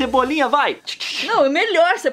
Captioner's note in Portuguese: tsh tsh tsh